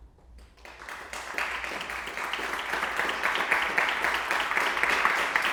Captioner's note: audience applauding